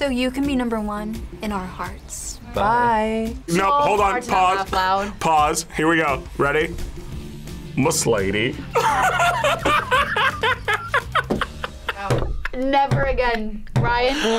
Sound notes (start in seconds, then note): 8.7 laughs